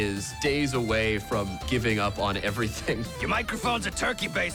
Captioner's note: chuckling